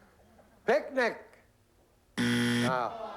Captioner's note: buzzer